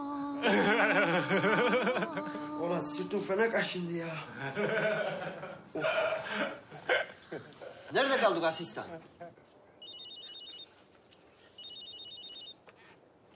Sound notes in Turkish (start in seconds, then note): 9.8 telefon çaliyor